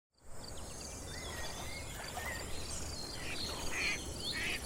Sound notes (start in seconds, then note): 0.2 birds chirping, water noises